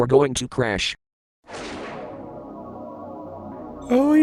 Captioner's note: tractor beam wibbly noise